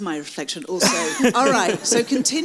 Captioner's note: audience laughs